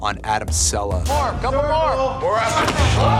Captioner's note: cheering